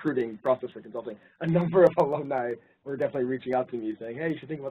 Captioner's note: laugh